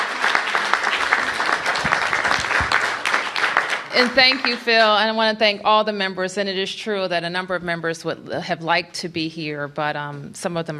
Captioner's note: applause